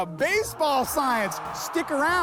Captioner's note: crowd roars